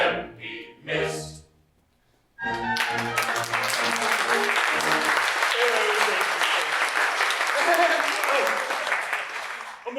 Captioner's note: music & applause